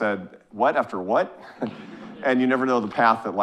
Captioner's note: audience chuckling